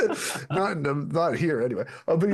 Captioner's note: laughing